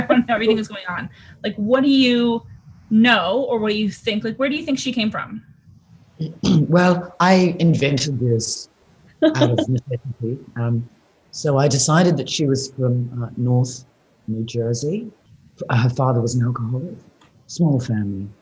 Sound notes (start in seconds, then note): 0.0 Sarah laughs; 6.2 clears throat; 9.2 Sarah laughs